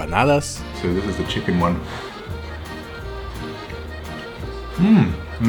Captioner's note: blows